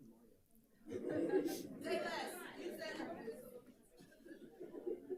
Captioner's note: group chattering